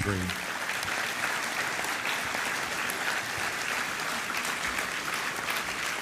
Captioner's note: applause